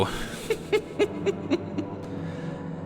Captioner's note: cackles